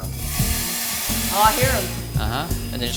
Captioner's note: beans rattling